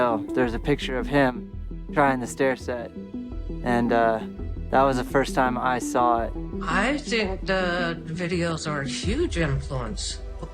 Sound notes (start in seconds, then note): none